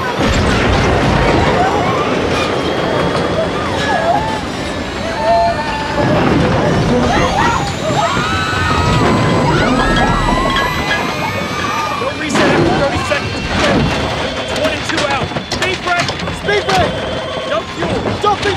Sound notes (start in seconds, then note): 0.0 passengers screaming, crying; 0.3 plane rumbling; 8.2 passengers screaming